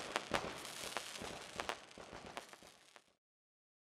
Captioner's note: sounds of applause and fireworks